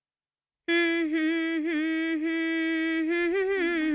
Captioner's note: humming